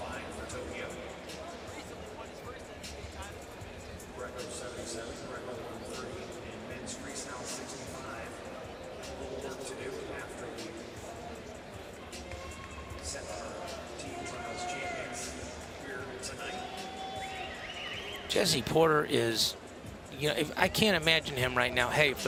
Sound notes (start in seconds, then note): 12.2 crowd cheering